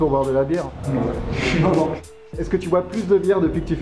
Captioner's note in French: rire